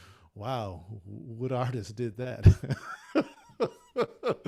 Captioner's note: laughs